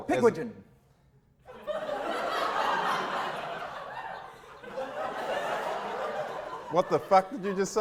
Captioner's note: audience laughter